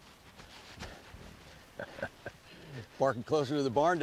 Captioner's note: solomon pants, casey laughs